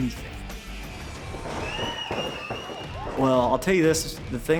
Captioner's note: slamming, cheering